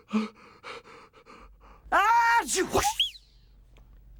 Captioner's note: sneezes